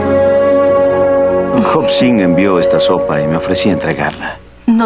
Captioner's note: whispering